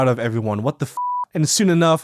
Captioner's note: beeps